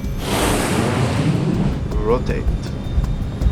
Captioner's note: plane engine roars